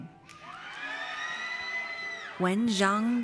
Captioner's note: audience cheers